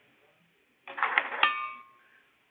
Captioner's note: loud clanging sound